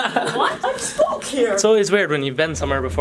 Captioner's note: laughing; mocking tone